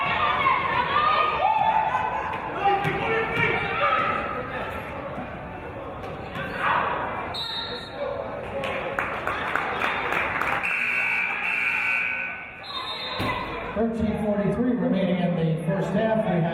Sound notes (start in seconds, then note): 7.5 referee's whistle; 10.6 buzzer; 12.9 referee's whistle